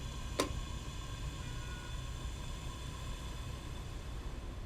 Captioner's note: kettle clicking